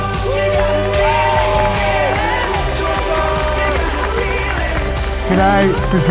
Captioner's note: cheering